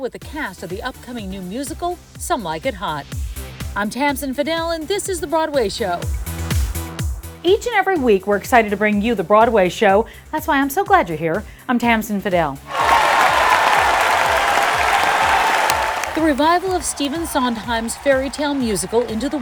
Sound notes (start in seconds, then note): 12.6 audience applauding